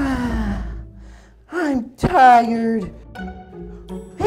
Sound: playful music; sighs

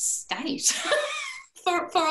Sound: laughter

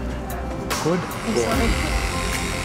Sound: buzzing

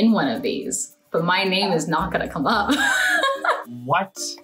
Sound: laughs

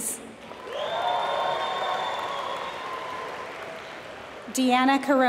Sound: applause

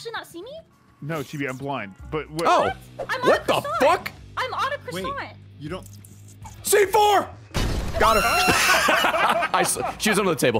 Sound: laughs

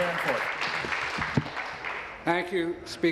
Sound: applause

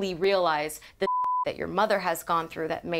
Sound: beep

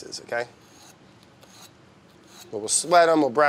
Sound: cutting board scratching

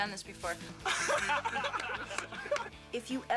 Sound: laughter

